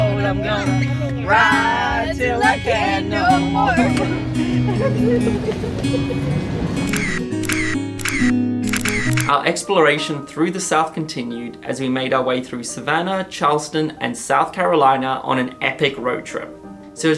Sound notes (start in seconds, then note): 3.3 laughing; 6.9 photos snapping